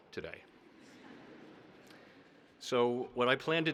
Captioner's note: audience laughing